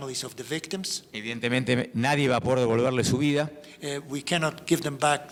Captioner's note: speaking in foreign language